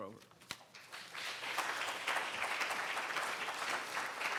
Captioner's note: audience applauds